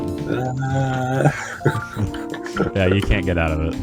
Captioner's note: laughing